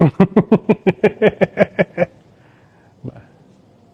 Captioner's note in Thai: เสียงหัวเราะ